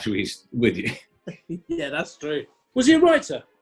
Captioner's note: chuckling